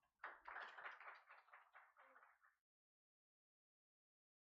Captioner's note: audience applauds